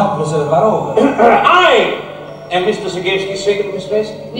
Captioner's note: clearing throat